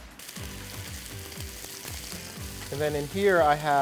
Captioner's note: pan sizzling